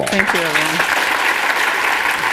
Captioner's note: applause